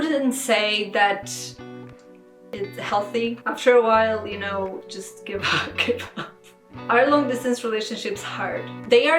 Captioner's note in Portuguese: Risos